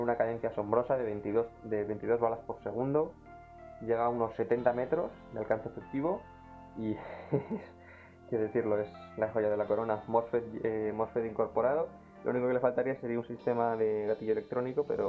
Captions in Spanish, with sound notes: tiene una cadencia asombrosa de 22 bolas por segundo llega unos 70 metros de alcance efectivo y... (suspiro) Que decirlo.. es la joya de la corona mosfet incorporado lo unico que le faltaría sería un sistema de gatillo electrónico